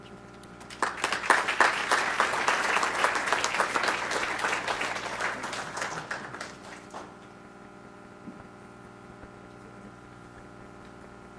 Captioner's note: applause